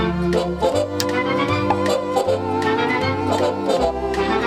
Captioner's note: pop!